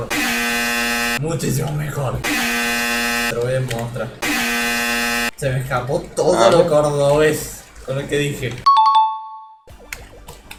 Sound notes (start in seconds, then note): 2.3 𝐄𝐗𝐓𝐑𝐄𝐌𝐄𝐋𝐘 𝐖𝐑𝐎𝐍𝐆 𝐁𝐔𝐙𝐙𝐄𝐑.𝐌𝐏𝟑